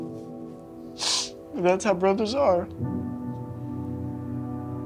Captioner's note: sniffling